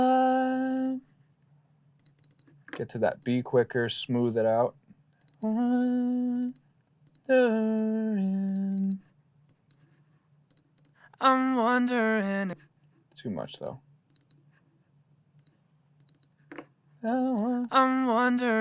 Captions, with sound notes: Get to that be quicker, smooth it out. [HUMMING] [VOCALS PLAYING] Too much, though. [VOCALS PLAYING]